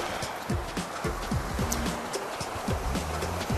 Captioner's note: water rushing